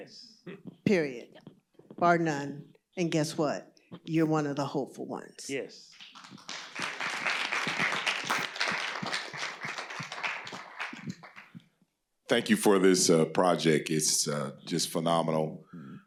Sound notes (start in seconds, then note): 5.9 applause